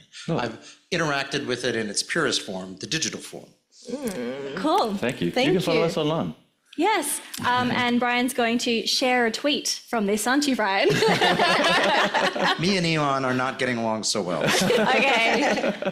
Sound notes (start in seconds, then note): 10.8 laughs